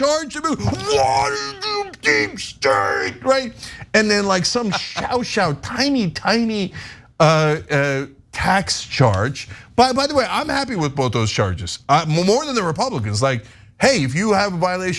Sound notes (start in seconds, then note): 4.5 laugh